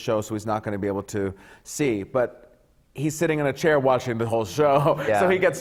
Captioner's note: laughs